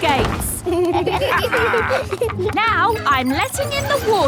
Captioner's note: kids and captain dog laughing